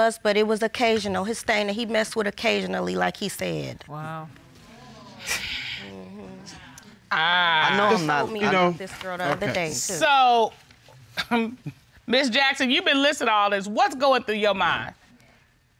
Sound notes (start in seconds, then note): 10.6 chuckles